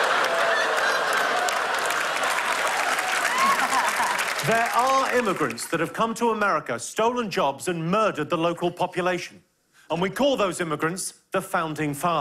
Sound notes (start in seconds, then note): 0.0 laughter and applause; 2.7 cheers and applause